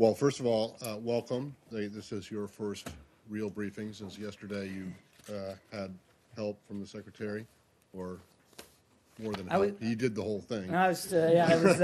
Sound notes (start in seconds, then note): 11.4 laughter